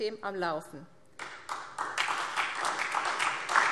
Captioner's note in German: Beifall SPD und DIE LINKE